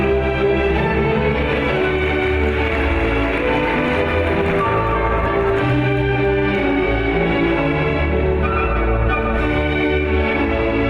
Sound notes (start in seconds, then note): 1.5 audience applauds; 7.3 lively classical music